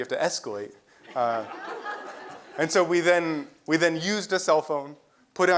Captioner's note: laugh